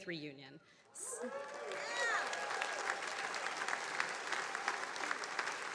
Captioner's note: attendees cheering and applauding